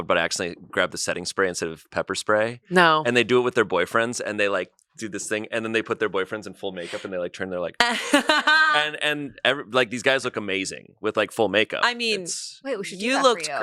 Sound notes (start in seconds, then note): 7.8 laughs